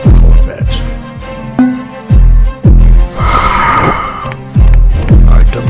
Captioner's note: very hard and annoyed sigh